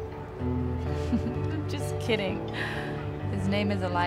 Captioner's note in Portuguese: risos